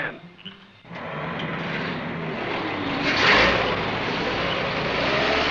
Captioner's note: truck engines revving